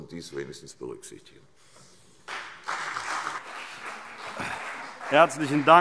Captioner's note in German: Beifall CDU